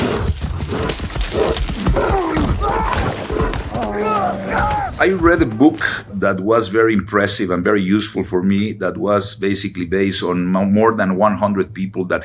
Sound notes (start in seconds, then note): 3.7 person screaming